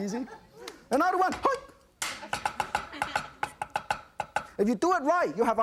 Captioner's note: audience laughs